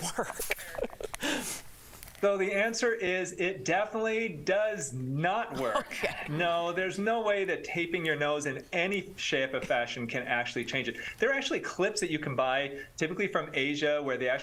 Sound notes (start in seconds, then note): 5.6 laughter